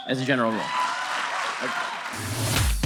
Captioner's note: audience applause; audience cheering